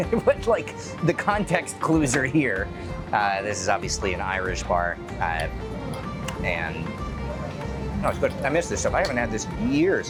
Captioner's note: laughing